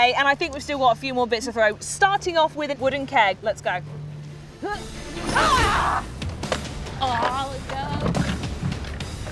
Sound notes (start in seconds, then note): 4.8 yells